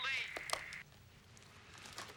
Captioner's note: click